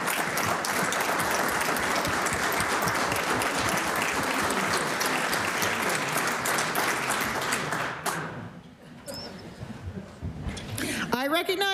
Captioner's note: applause